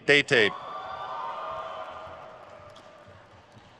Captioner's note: crowd cheers